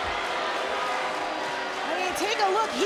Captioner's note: crowd boos